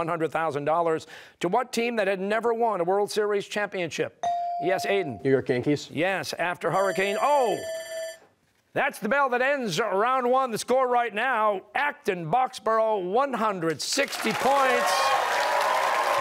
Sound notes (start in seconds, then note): 6.8 bell ringing